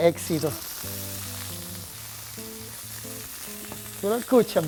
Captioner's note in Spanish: chisporroteo